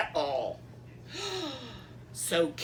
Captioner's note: gasp